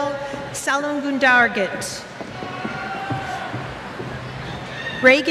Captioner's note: cheers